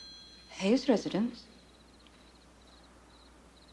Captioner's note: phone ringing